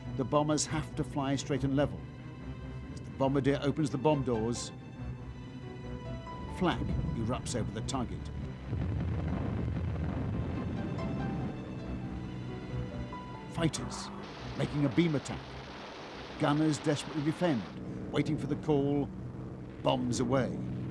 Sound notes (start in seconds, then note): 8.6 explosions